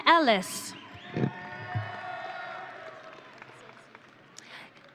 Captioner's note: audience cheering